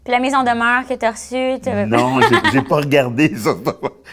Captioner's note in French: rire